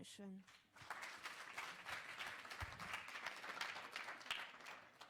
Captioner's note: applause